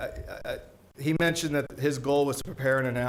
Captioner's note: stutters